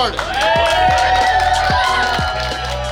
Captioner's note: cheering & Clapping